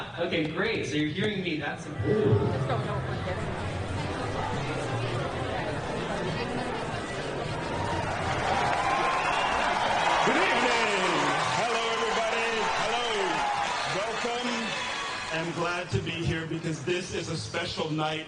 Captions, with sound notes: Okay, great, so you're hearing me. (crowd muttering) (audience cheers) - Good evening. Hello everybody. Hello. Welcome. I'm glad to be here because this is a special night.